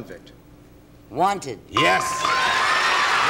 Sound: applause

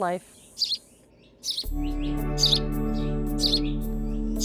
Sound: bird chirping; gentle music

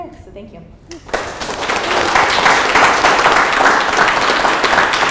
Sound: applause

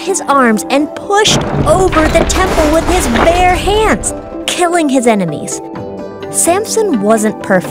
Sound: rumble, crash

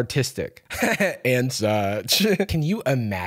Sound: laughs

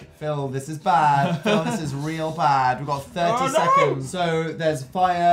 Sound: giggles

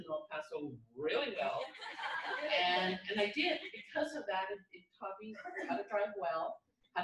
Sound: laughter

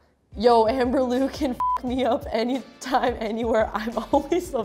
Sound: beep

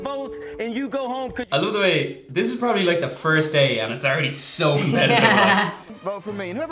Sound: laughs

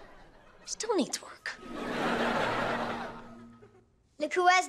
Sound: pulsating

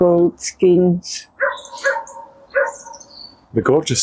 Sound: dog Barking

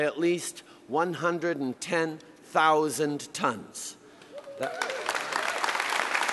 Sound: applause

